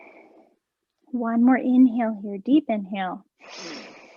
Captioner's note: inhaling